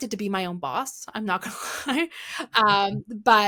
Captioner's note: chuckles